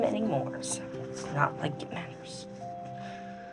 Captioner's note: none